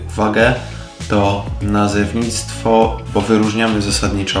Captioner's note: in polish